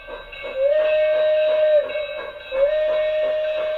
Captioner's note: steam whistle blows